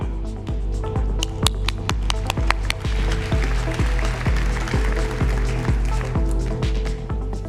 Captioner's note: applause